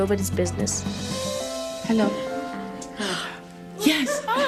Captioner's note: gasps